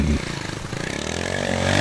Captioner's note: motorcycle engine revs